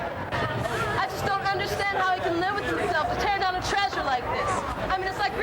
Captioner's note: protest sounds